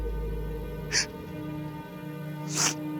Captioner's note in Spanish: sollozos